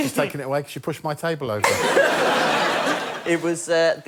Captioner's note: laughter